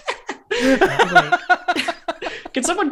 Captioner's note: laughter